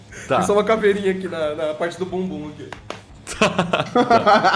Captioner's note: slap slap